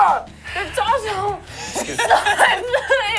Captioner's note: laughs